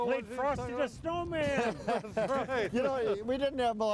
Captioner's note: all laughing